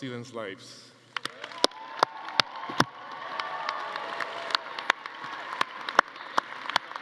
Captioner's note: everyone applauding; attendees cheering